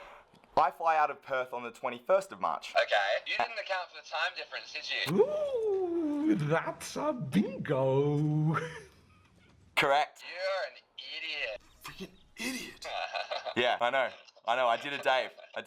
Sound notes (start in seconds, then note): 8.1 laughs; 12.3 laughs